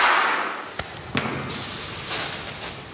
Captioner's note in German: Rascheln